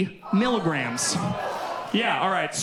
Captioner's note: audience groans